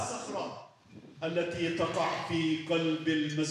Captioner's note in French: Audio en arabe